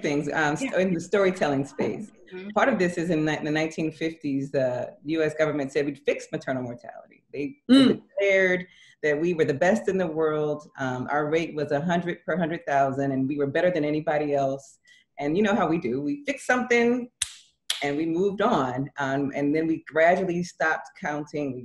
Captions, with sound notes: in the storytelling space. Part of this is in the 1950s, the US government said we'd fixed maternal mortality. They declared that we were the best in the world, our rate was a hundred per 100,000, and we were better than anybody else. And you know how we do, we fix something (hands clapping) and we've moved on and then we gradually stopped counting.